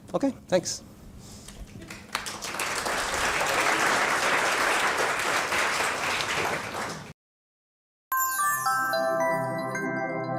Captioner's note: applause